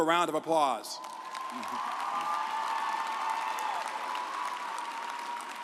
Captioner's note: audience applauds